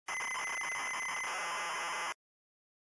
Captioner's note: old computer intro sounds